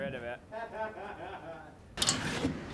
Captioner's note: laughs